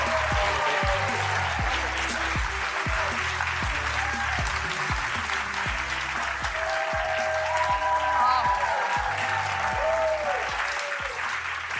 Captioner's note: applause